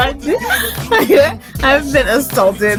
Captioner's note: manager steadily gasping with laughter in the background